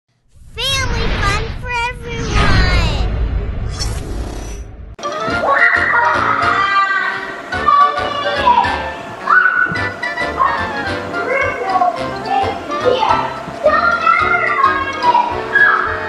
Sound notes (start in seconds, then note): 2.4 air whoosing; 5.5 evil Assistant laughing evilly